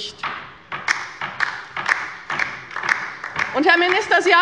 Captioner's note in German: Beifall bei der LINKEN